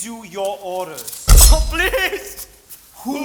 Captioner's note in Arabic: يضربون مرة أخرى. يصرخ يتسحاق من الألم